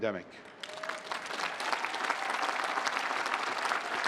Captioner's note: applause